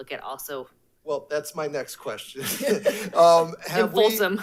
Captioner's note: laughs